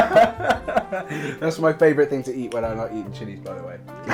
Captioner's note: laughter